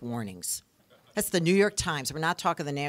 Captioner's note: audience laughing